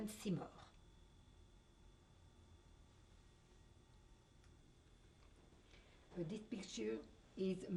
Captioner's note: pauses for 6 seconds